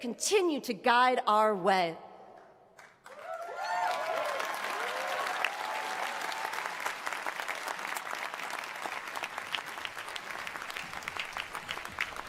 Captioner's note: applause